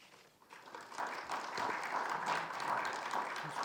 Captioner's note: applause